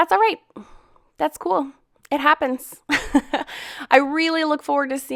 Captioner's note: laughs